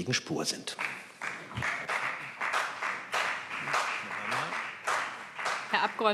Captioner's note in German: Beifall BÜNDNIS 90/DIE GRÜNEN